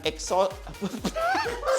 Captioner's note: boys laugh